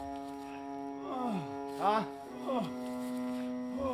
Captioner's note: Undertaker gasping